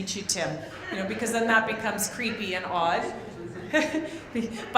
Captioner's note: laughs